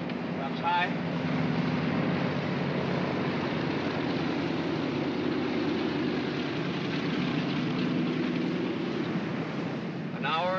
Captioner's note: aircraft rumbles